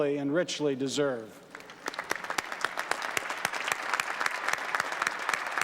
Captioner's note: applause